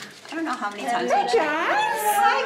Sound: murmurs

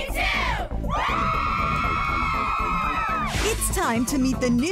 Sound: cheering

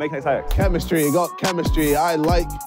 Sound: group beatboxing

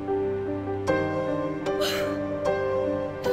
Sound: Googly gasps

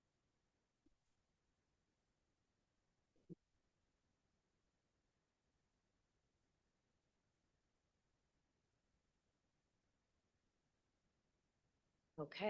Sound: audio cuts out

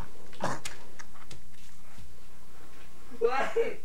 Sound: prisoner coughs

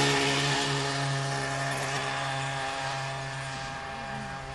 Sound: engine sounds

